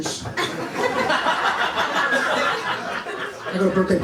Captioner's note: laughter